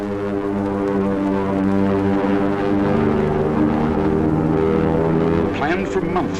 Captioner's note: planes flying